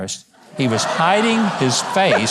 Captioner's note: audience laughs